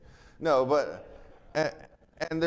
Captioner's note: attendees laughing